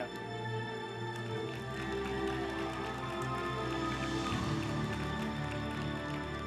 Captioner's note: group applauding; uplifting music